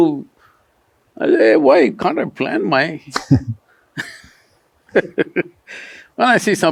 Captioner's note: laughter